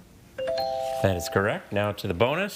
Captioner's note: text chiming